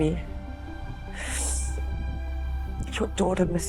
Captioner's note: sniffling